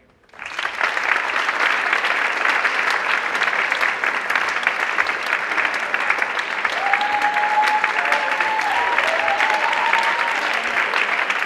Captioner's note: applause